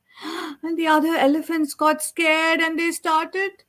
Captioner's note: gasps